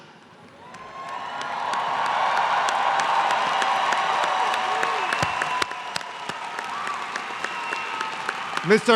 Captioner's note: applause